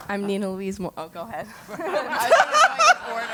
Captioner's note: laugh